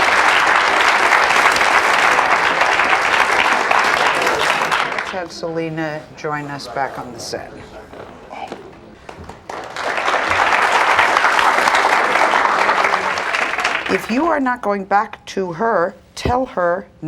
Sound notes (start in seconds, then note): 0.0 audience applauds; 9.0 audience applauds